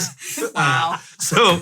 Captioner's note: laughing